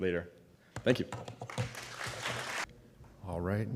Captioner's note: applause